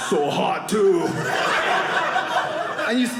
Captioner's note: audience laughing